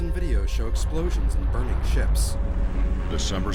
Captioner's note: explosion